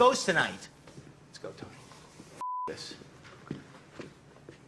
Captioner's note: beep